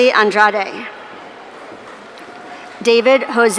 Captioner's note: audience cheering